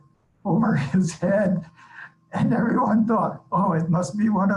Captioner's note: laughs while talking